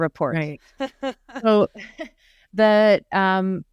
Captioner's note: chuckles